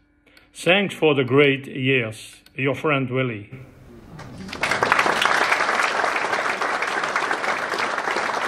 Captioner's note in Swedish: Applåder